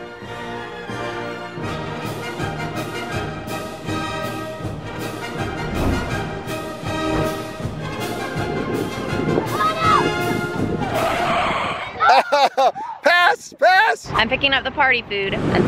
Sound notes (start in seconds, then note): 0.2 energetic classical music; 10.8 tires screeching; 11.9 laughs